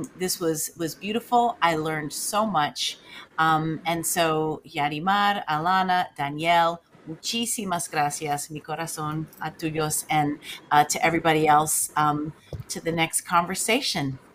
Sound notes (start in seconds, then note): 6.4 speaks in foreign language